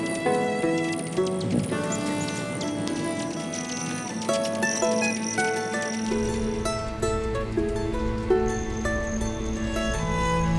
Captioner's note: birds chirping & music